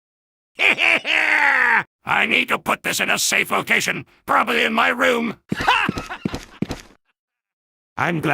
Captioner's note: soldier Happily Laughs